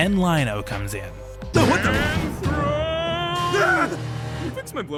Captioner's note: Panthro screams